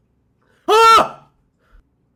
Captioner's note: startled